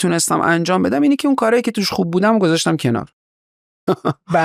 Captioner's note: laughs